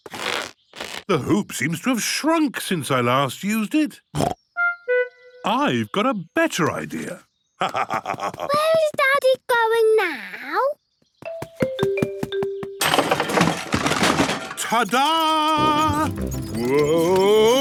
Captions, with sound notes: The hoop seems to have shrunk since I last used it. I've got a better idea! (laugh) - Where is Daddy going now? - Ta Da! Woah...